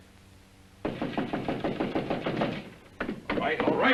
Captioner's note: knocking